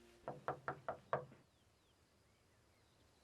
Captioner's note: knocking